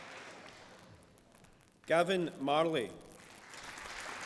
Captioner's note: applause